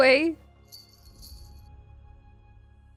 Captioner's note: bell chimes twice as they reach the foot of the bed